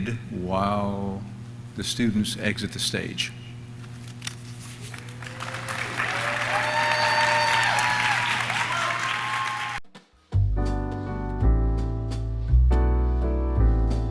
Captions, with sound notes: while the students exit the stage. (audience cheers) (audience claps) (cheerful Christmas music)